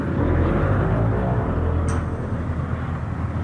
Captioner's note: plane noise